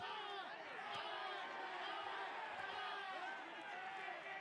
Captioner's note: cheering